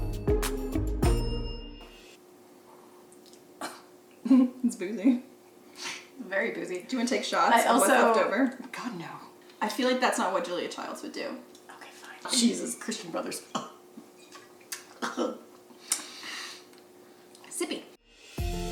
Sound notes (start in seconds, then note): 3.6 coughs; 14.8 coughs